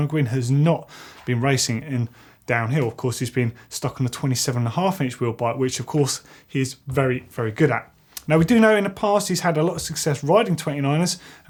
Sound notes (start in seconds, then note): none